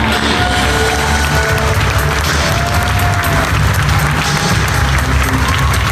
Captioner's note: crowd applauding; upbeat music